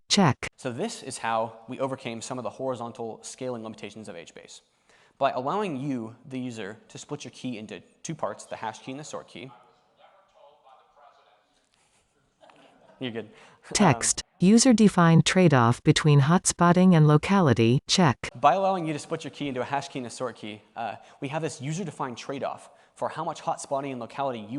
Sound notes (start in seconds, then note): 10.4 background chatter; 12.4 chuckles